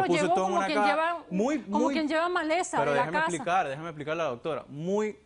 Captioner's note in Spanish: Hablan al unísono